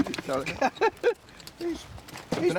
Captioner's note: laughs